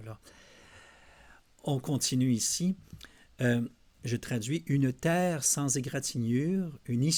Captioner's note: translating in French